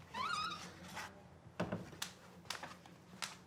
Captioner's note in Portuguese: rangido da porta